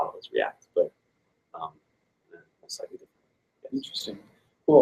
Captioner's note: mutters